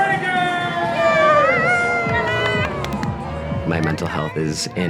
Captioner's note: cheering